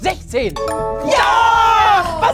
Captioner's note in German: Klingeln, freudige Laute